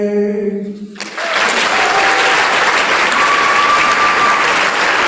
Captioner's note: applause